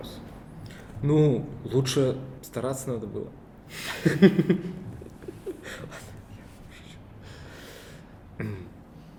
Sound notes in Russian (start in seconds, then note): 3.9 смеются; 4.8 шёпотом